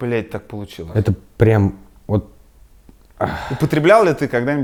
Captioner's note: exhales